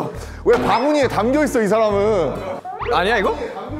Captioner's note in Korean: ㅋㅋ